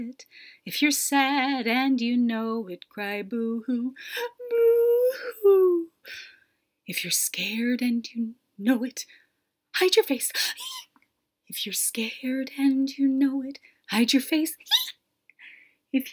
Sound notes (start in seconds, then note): 10.7 shriek; 15.3 shriek